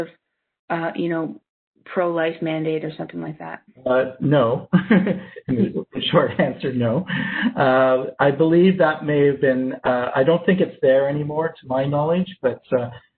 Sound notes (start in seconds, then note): 6.3 laughs